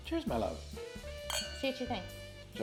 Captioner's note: glasses clinking